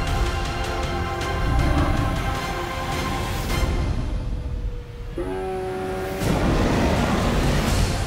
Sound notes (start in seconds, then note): 5.1 roars